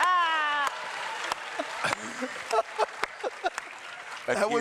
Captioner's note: clapping